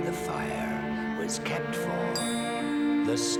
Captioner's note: clinks